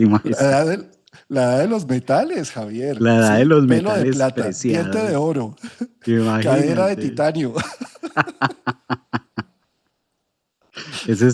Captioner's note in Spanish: risas; risas